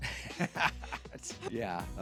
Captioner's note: laughing